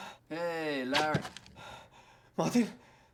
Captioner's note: muffled gunshot